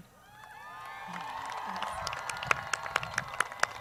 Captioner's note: crowd cheers